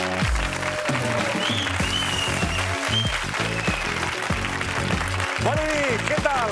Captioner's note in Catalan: aplaudiments